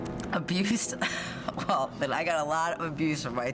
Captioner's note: chuckles